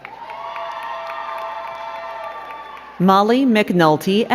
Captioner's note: crowd cheering and clapping